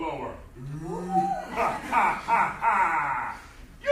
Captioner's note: laughs